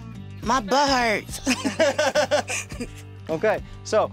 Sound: laughter

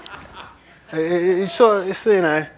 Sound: laughter

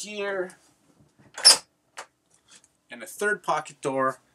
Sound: clicking

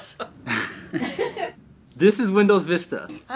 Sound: woman chuckles

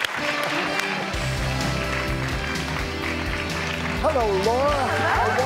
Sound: audience applause

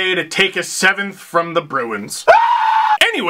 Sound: scream

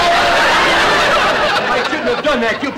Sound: audience laughter

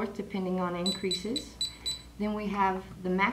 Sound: beeps

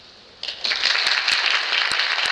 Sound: clapping

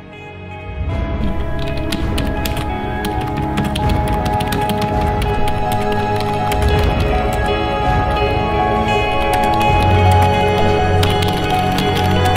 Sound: keyboard sound

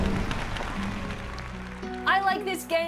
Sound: audience cheers

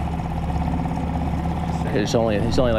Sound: boat motor hums

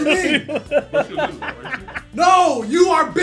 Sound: laugh

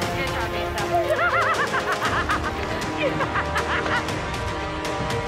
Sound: laughs

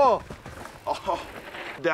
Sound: laughs

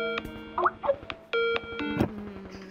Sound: Facetime ring tone; Lady Macbeth Moaning

